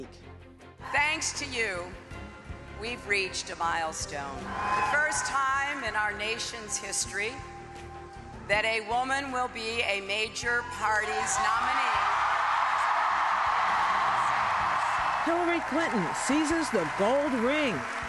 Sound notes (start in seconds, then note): 9.7 cheers, applause